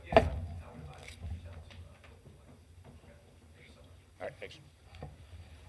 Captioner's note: indistinct chatters